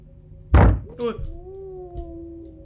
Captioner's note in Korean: 쿵!